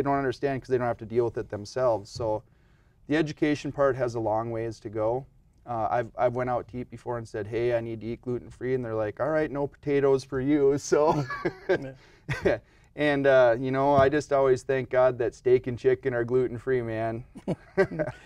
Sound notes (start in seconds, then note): 11.0 man laughing